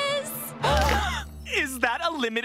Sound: gasping

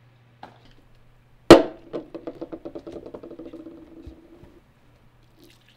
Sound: cups clanking loudly

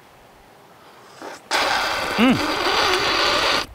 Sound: men slurping

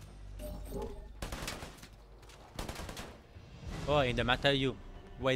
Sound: guns firing

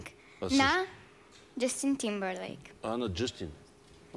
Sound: speaks in Bulgarian

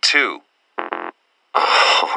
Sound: access Denied Beep

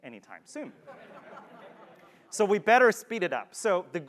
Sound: laugh

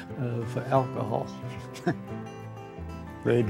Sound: chuckling

